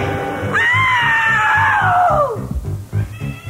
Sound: dinosaur roars; screams

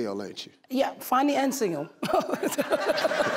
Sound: chuckles

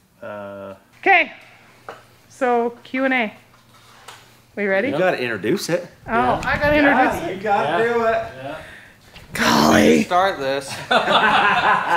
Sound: sigh

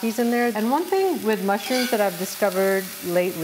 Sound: chautauquas sizzling

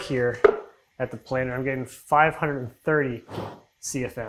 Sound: loud air movement

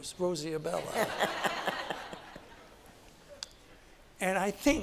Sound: Rosie laughs

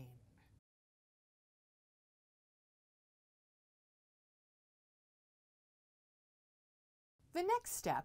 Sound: no Sound Present

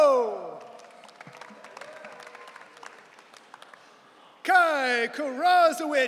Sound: audience cheering

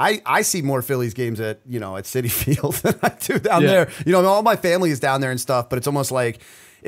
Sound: chuckle

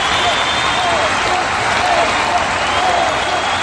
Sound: crowd Applauding

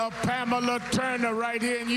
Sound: cheers and applause

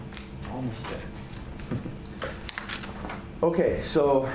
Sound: laughs

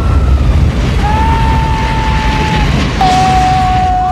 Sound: shouting; screams

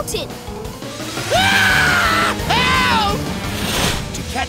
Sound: screaming

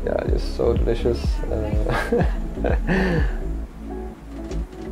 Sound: laughs

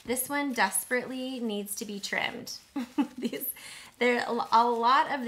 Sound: chuckles

